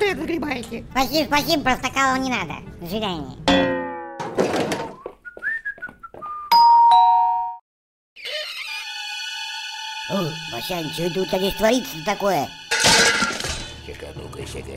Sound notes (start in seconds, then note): 4.9 whistling; 6.5 doorbell